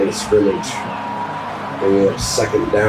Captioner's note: crowd Noises